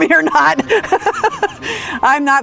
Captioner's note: person laughing